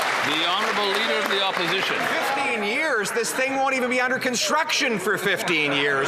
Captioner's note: some Applause